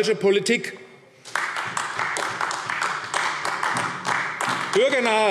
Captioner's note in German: Beifall AfD